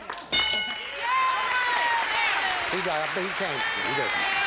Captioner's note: bell; applause